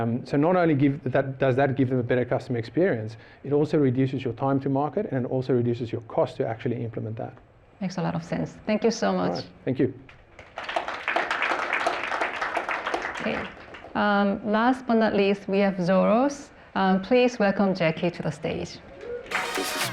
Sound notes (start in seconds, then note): 10.2 applause